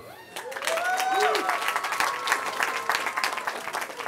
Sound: cheering

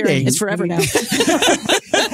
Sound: laughing

